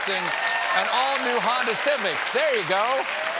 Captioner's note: applause